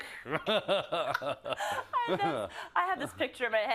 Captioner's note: laugh